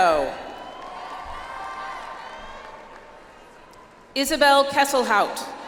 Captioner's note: audience applauds